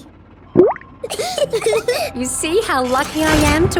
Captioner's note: bubbles; laughing